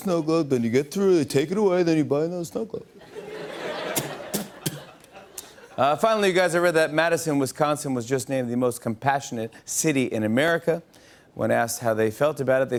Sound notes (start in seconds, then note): 3.6 light laughter; 5.0 normal voice